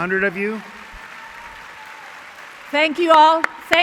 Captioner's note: applause